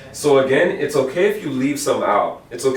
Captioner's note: none